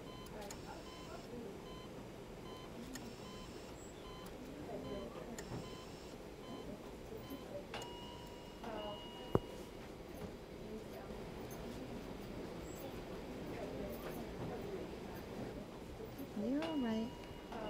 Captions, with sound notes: And it's kind of surreal. Is it just gonna play with my emotions or am I gonna be hurt again or whatever? [MACHINE BEEPING] And, I fear being alone. I never-- That's one thing I never want to do, like...